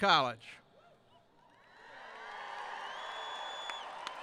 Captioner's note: cheering